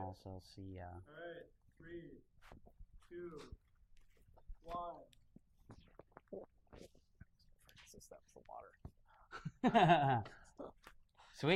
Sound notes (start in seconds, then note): 2.3 male Voice; 9.2 laughs